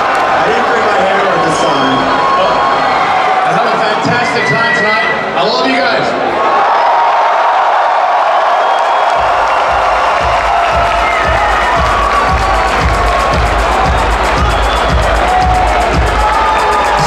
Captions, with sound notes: - I didn't bring a hammer this time. - I had a fantastic time tonight, I love you guys. (crowd cheering) (upbeat music)